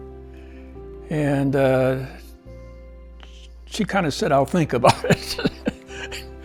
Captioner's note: laughs